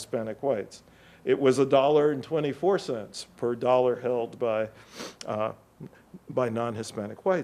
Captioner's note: sniffles